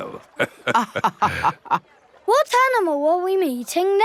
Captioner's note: both laughing